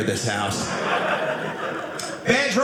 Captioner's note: audience laughing